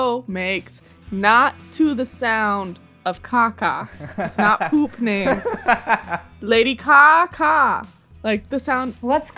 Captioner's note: laughter